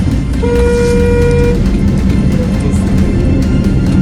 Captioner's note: cars honk at special agents